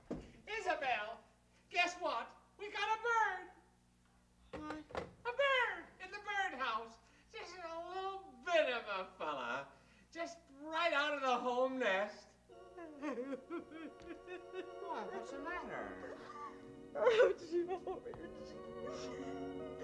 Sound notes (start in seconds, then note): 4.4 mother, quietly; 12.6 mother sobbing; 16.8 mother, sobbing